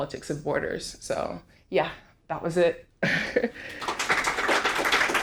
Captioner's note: chuckles; audience applauding